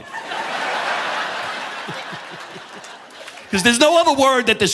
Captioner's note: audience laughing; laughs